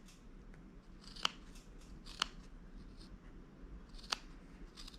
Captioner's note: scissors snipping